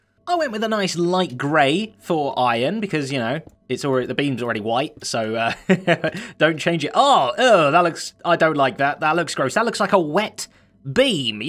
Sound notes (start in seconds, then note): 5.5 chuckles